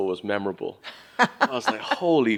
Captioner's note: laughs